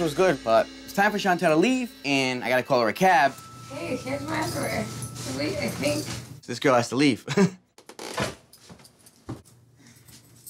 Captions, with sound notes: - Smushin' was good, but it's time for Shantelle to leave. And I got to call her a cab. This girl has to leave. (chuckles)